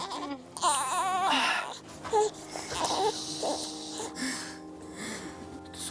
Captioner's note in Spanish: Gemidos del bebé